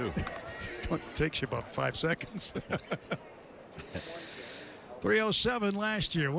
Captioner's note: laughter